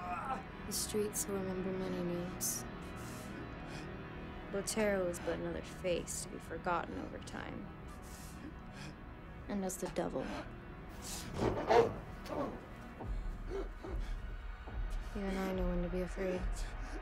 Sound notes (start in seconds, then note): 10.8 Solomon groaning; 13.5 light dramatic music